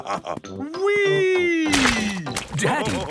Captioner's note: splashes